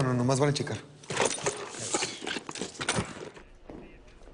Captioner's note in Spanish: Ruido al abrir